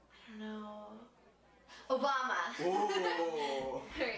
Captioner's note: laughing